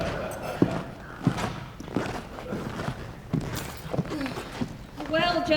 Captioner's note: audience laughs; footsteps entering